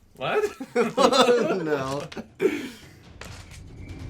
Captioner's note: weird Dracula voice; laughter; through laughter